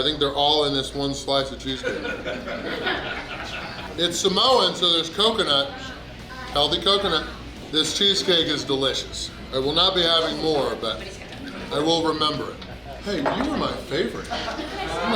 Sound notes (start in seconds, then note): 1.8 hahaha